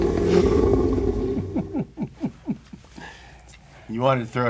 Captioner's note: laughs